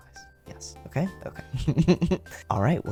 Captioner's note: laugh